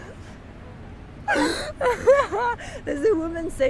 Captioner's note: laugh